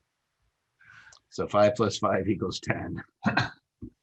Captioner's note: laughs